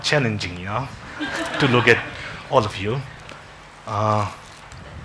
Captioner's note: congregation laughing